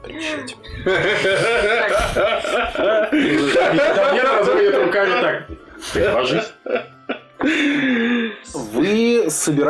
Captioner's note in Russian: Стол угарает